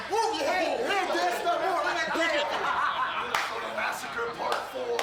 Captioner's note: group chattering